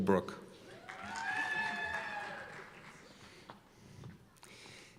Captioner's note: cheers and applause